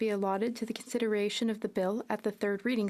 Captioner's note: speaking French